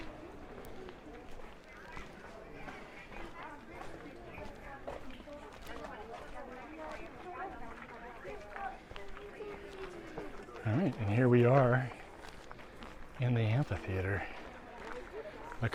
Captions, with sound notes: [background chatter] All right, and here we are in the amphitheater.